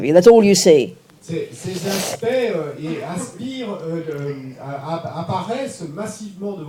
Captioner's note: French